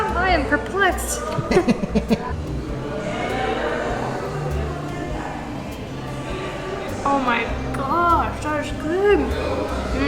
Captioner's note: laughs